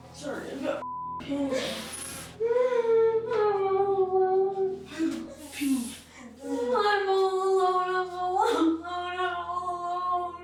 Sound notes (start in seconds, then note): 2.3 sobbing